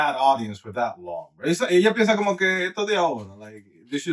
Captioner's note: speaking In Foreign Language